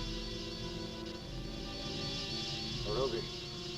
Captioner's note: muffled wasps buzzing